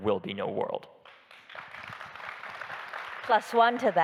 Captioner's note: audience applauding